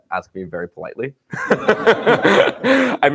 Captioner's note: laughter